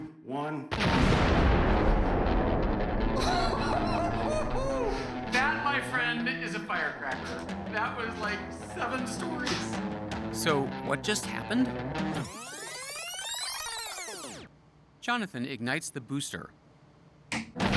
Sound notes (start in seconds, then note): 0.7 loud explosion; 3.1 Pogue laughing; 12.0 tape rewinding sound